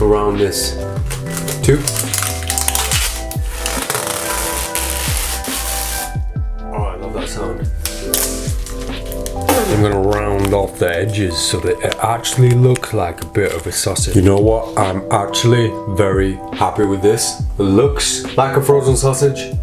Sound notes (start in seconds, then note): 2.8 tape stretches; 8.6 spits